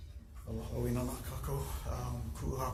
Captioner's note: speaks in Hawaiian